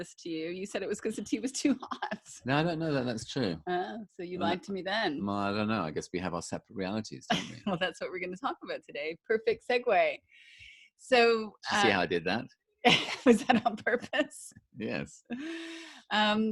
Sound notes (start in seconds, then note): 2.1 laughs